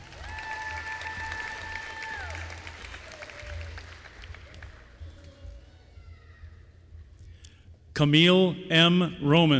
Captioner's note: applause